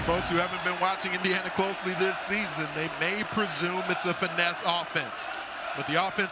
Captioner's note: cheering